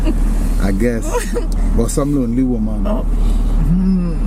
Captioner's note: laugh; laughing